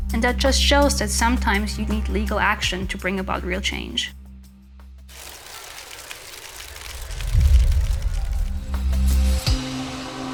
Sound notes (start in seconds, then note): 5.2 camera clicking; 7.2 dramatic music